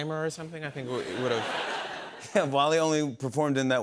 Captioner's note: laughter